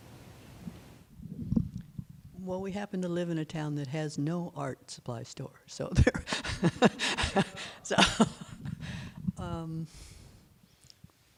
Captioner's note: laughter